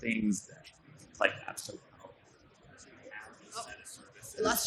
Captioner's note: faintly speaking